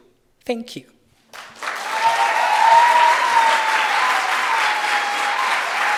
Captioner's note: audience cheering and applauding